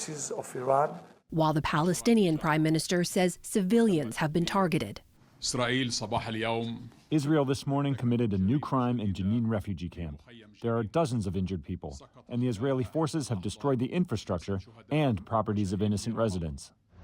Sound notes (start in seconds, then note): 6.6 through translator